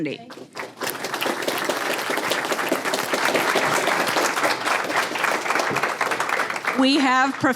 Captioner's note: applause